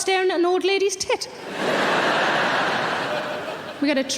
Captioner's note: audience laughing